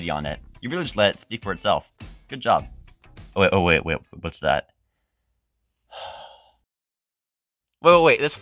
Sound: sigh

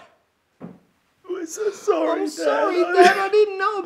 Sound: cries

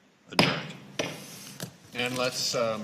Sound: gavel bangs

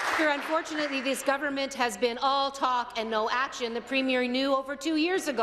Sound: applause

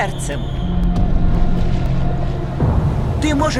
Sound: thunder rumbling

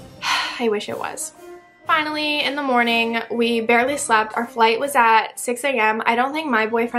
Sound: sigh

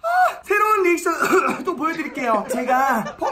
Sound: coughs

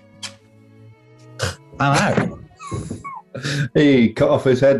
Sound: sniggering

